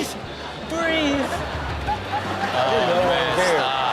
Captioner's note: audience laughing